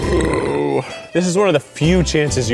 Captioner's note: burps